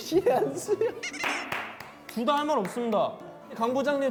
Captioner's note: laughing